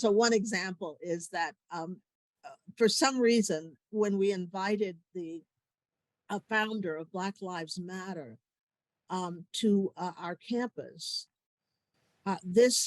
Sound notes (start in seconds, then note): none